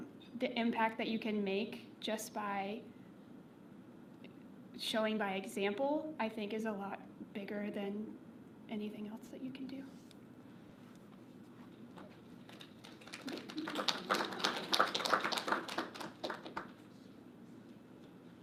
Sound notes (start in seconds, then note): 12.5 audience applauding